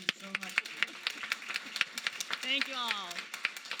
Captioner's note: applause